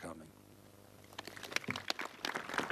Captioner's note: applause